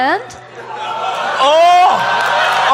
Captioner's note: audience laughing